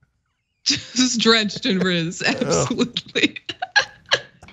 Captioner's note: laugh